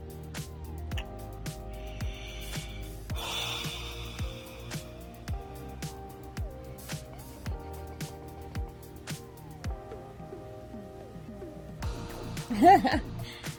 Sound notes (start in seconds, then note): 1.7 think breathing; 7.2 laughs